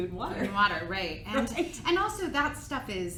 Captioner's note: giggles